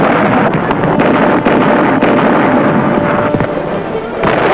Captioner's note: canons blasting